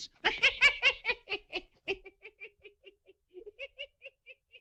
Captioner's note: لويس يضحك